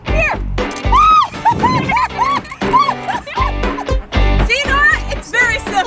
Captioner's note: squealing and laughing